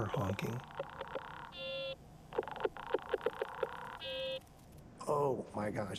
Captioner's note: honks and rattles